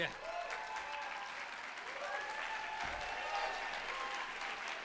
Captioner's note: cheers and applause